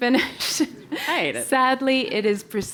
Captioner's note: laugh